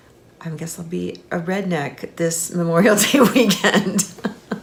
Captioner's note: laughing